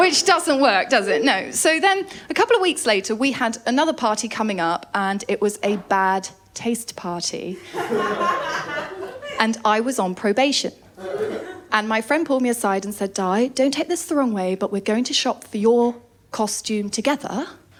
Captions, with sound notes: Which doesn’t work, does it? No. So then a couple of weeks later we had another party coming up and it was a bad taste party. [LAUGHTER] And I was on probation. And my friend pulled me aside and said, “Di, don’t take this wrong way, but we’re going to shop for your costume together